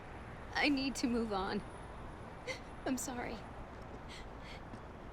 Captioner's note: sobs